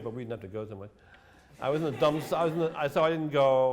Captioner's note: laughter